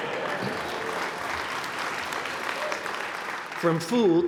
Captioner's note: applause